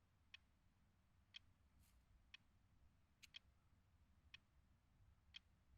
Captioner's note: clock ticking continues